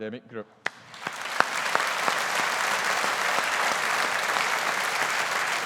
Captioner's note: audience applauding